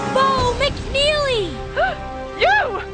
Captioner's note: gasp